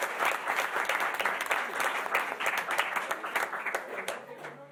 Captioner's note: chattering